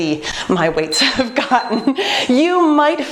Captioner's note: beeping